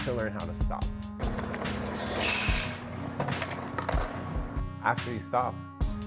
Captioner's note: skateboard rumbling